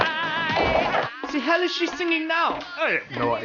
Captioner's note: over the intercom